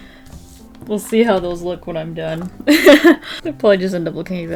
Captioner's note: laughs